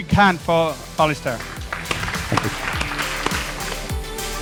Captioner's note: audience applause